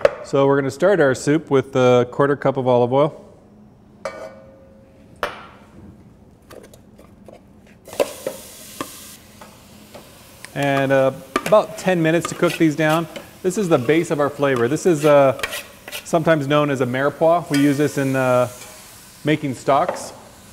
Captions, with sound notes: So, we're gonna start our soup with the quarter cup of olive oil. [sizzling sounds] And about ten minutes to cook these down. This is the base of our flavor. This is a..... Sometimes known as a "mirepoix." We use this in making stocks.